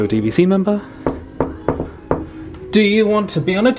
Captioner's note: door knocking